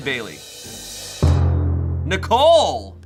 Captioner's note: thud booms